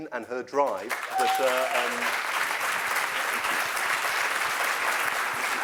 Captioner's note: applause